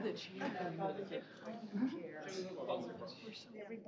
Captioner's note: overlapping chatter